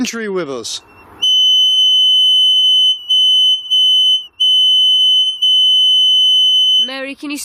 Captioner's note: energy detector device beeping and whistling